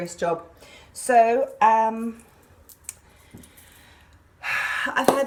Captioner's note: exhales loudly